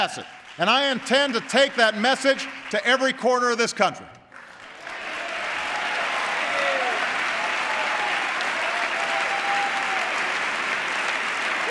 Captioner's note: applause